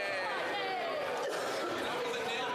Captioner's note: speaking in French